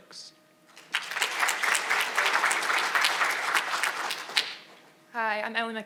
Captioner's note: audience applauding